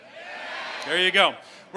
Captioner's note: crowd cheering